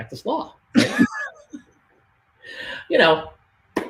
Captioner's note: laughs